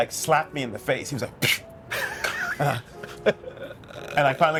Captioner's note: laughing